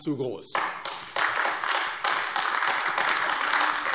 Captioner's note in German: Beifall AfD